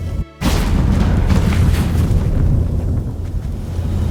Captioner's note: portal rumbles